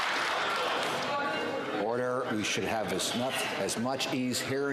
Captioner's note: some Applause